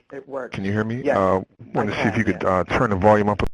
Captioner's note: voiceover